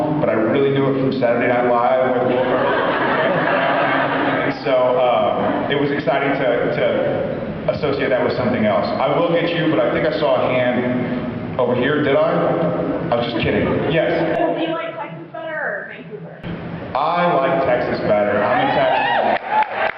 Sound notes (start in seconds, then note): 2.2 laughs; 18.2 cheers, applauds